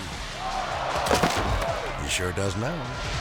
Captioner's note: body thuds; people exclaiming